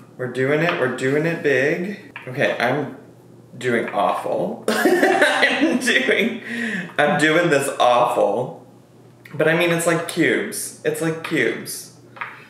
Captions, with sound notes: We're doing it. We're doing it big. Okay, I'm doing awful. (laughs) I'm doing this awful. But I mean, it's like cubes. It's like cubes.